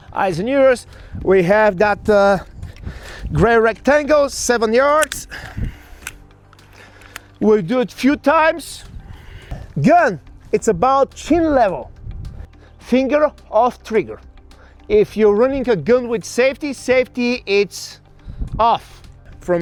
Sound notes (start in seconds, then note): 5.4 gun clicks